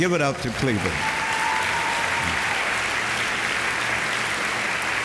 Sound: audience applauding

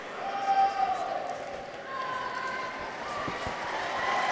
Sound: people cheer

